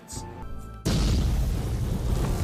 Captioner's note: explosion